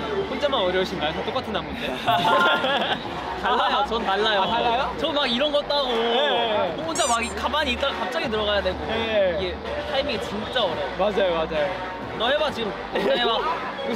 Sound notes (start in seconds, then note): 4.9 upset